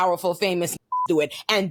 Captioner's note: beep